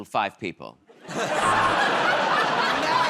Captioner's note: laughter